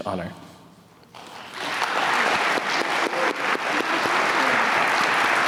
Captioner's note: applause